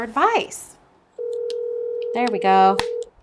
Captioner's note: phone ringing